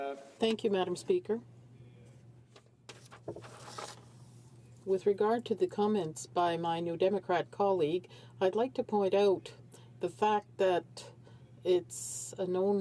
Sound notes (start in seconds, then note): 5.7 speaking in French